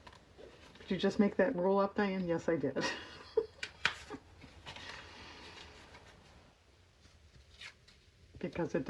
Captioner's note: laughs